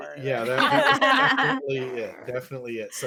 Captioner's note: all laughing